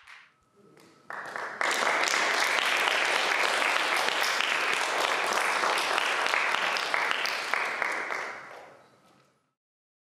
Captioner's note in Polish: Aplauz